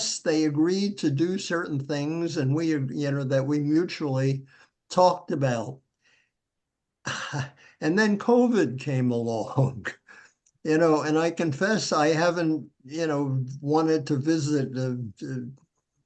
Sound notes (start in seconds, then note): 9.6 chuckles